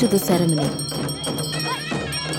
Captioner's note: intense bell jingling; reed pipe music; soft drumming